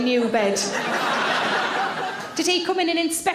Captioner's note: audience laughs